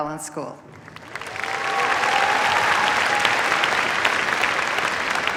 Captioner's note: cheers, applause